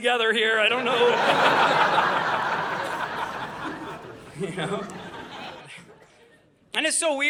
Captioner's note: audience laughing